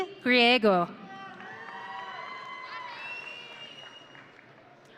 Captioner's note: audience cheering